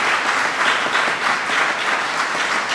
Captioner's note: applause